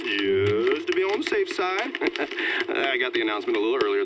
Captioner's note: chuckles